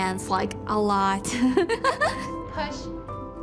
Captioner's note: giggles